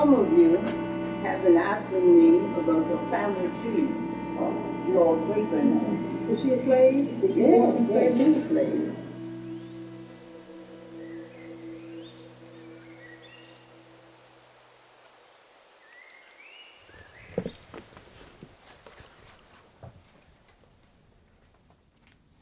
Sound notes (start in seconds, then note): 8.0 group chattering; 12.2 birds chirping; 12.2 water rushing